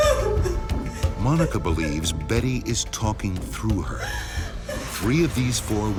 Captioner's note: voiceover